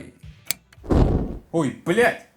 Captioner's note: click